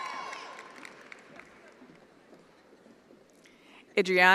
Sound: attendees applauding

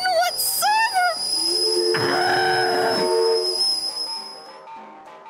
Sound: steam train whistle

